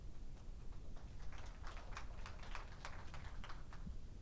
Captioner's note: audience applauds